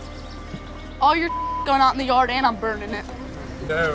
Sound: beep

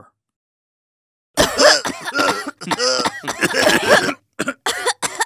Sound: coughing

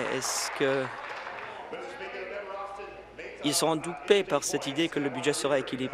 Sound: applause

